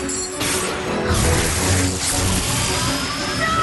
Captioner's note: whoosh